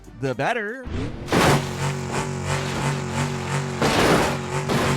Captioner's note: car crashing